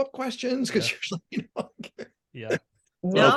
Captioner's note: laughing